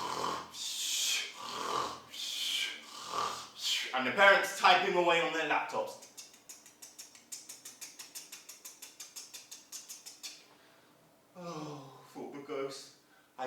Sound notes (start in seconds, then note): 1.2 sound of snoring; 5.9 sound of typing on laptop